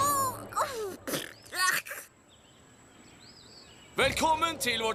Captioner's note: spits